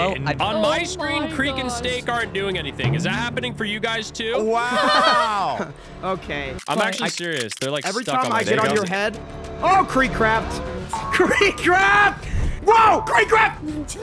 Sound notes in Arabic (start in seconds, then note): 4.6 المشاركين يضحكون